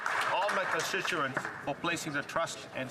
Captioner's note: applause